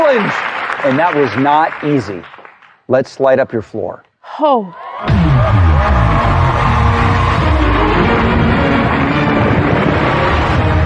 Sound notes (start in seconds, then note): 4.7 cheering and applause; 5.0 dramatic music